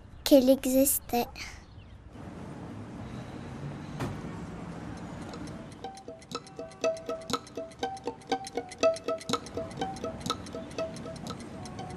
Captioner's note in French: Bruits de circulation et tic tac de pendule